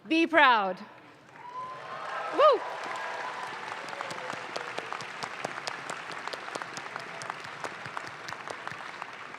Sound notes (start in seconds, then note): 1.0 audience claps